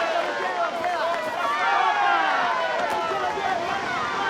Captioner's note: cheering